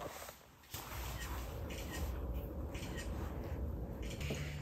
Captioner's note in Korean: 찰칵